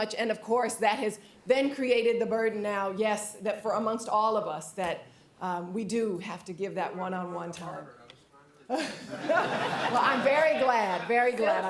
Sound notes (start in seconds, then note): 8.7 laughter